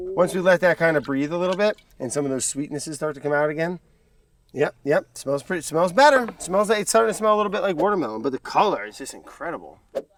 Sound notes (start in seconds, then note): none